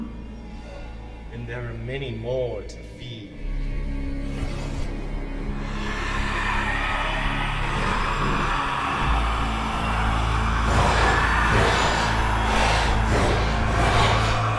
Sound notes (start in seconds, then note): 5.6 creature screeching